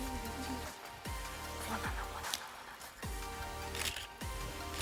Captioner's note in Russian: шепотом